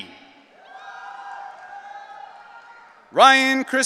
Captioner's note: audience cheering